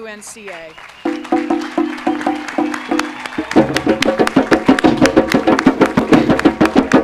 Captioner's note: applause and musical fanfare by the drum ensemble